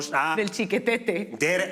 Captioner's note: laughs